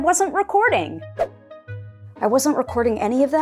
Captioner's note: woosh sound